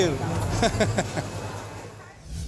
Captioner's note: laughing